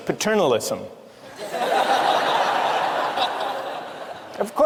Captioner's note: laughter